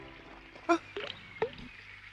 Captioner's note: gasps